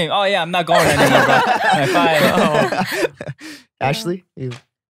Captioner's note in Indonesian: tertawa